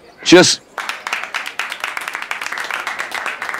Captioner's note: All clapping